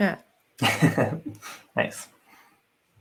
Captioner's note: laughs